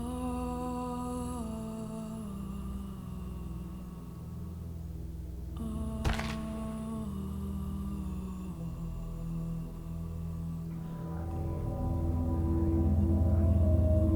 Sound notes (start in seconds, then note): 6.0 crunching; 11.3 ethereal tones